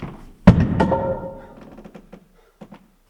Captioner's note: board thuds